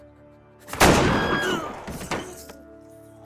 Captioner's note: vilma screams